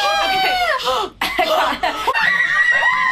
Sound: gasping

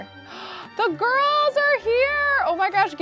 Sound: gasps

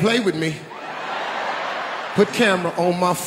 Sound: audience laughing

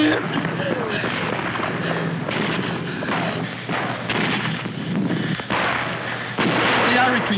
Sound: gunfire

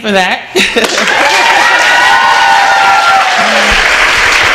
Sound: applause

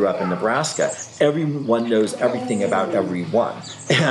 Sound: laughs

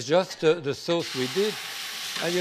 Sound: sizzles

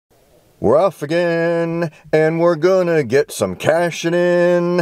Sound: in a sing song voice

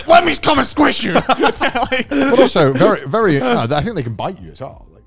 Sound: everyone laughs

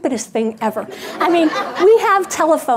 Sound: audience laughing

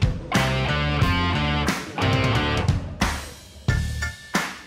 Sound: clap

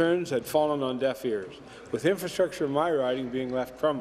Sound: none

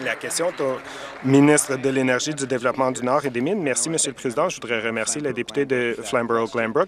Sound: some Applause

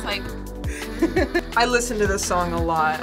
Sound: React laughs

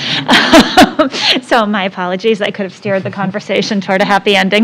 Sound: laugh

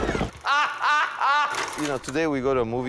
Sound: Jacobovici laughing

